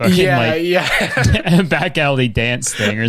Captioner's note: laughs